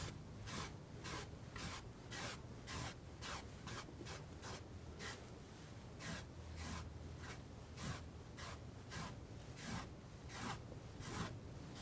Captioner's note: scratching